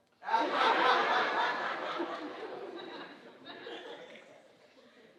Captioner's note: audience laughing